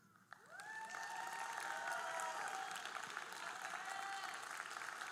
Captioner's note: audience cheering and applauding